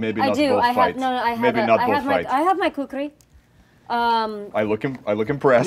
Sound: speaking in foreign language

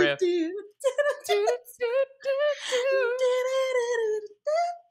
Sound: both imitating tune

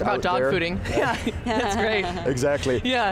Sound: laughing

